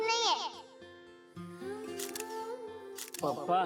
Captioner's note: photo clicking; Golu talking gibberish